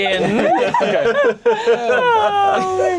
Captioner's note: laughing